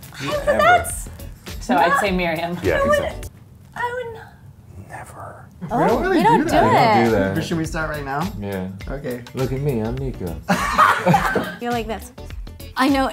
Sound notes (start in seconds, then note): 10.4 laughter